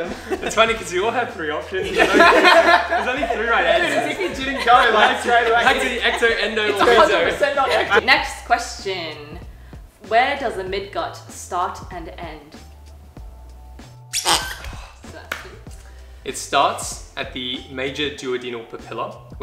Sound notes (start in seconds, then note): 1.9 laughs; 14.1 squeaks